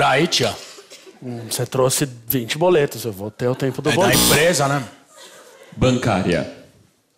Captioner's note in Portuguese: campainha